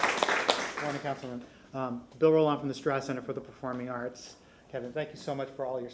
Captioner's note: applause